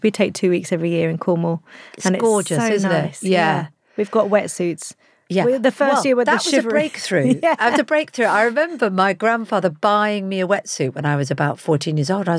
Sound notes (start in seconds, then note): 7.1 laughs